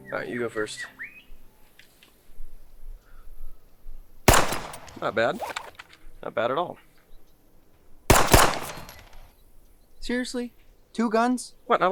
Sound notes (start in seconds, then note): 4.2 gun firing; 8.0 guns firing